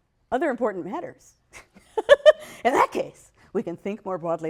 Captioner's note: laughs